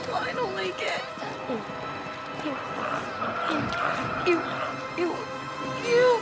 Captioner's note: squeals